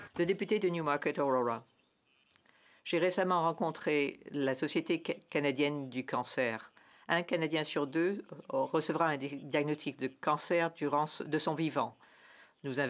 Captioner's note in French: voix de l'interprète